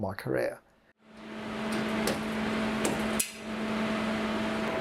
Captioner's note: projector hums